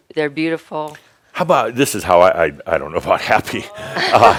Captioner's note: laughter